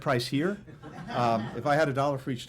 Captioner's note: laughter